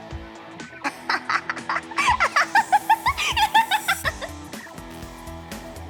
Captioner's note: giggles